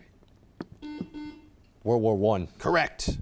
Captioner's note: buzzer chimes